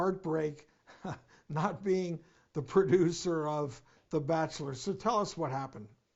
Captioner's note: chuckles